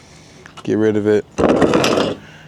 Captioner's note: metal clanking